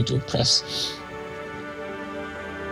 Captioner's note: sniffles